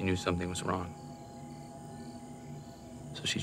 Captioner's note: crickets chirping; tense music